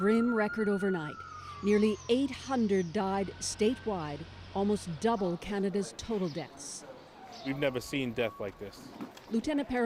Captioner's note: siren